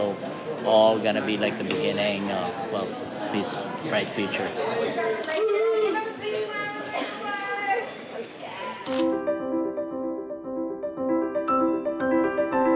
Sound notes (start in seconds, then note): 5.2 camera clicking; 9.1 lively piano music